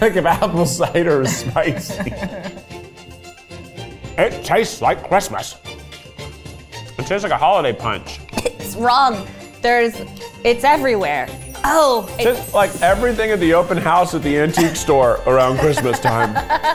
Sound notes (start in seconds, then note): 1.0 laughing; 8.1 coughs